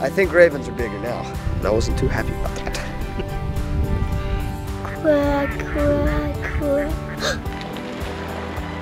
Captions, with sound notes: I think ravens are bigger now And I wasn't too happy about that Quack, quack, quack [gasps]